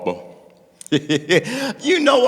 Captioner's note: laughing